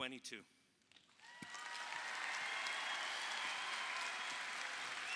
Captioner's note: audience applauding